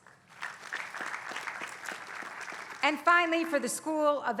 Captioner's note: applause